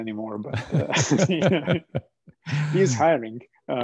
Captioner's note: laughter